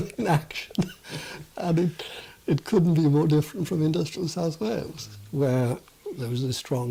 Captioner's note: laughs